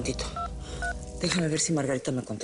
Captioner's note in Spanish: Sonido al marcar